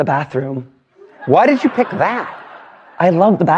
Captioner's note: laughter